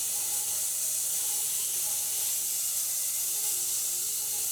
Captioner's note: saw whirring